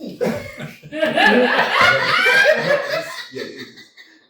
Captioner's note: laughter